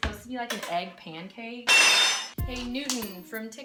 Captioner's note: spatula hits counter